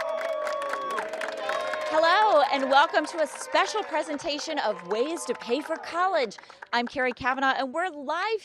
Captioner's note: cheers and applause